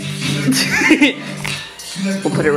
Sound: giggles

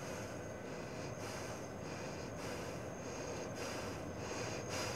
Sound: breathing heavily

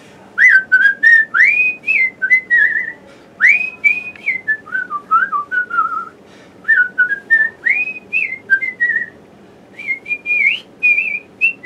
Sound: whistles

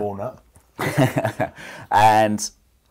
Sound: laughs

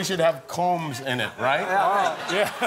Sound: laughter

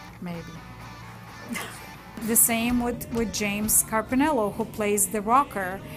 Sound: laugh

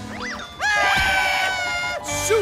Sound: screaming

